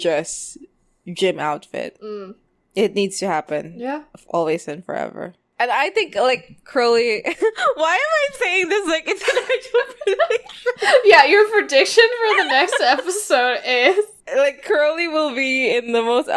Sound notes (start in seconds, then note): 8.9 laughing